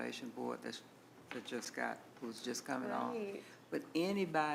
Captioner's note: replies quietly